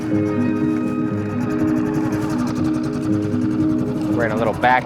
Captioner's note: gentle violin and piano music; boat engine chugging